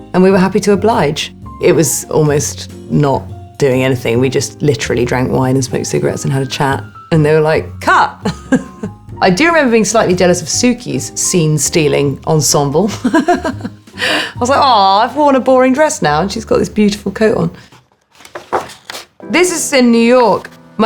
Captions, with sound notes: and we were happy to oblige. It was almost not doing anything, we just literally drank wine, and smoked cigarettes, and had a chat. And they were like, cut. [Alexa chuckling] I do remember being slightly jealous of Suki's scene-stealing ensemble. [Alexa laughing] I was like, aw, I've worn a boring dress now, and she's got this beautiful coat on. This is in New York.